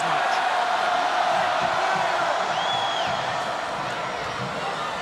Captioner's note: crowd chants "Hooo"